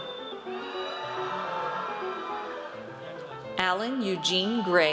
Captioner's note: audience cheers